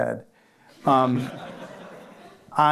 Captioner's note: laughter